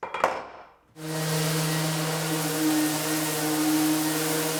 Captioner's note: sander whirring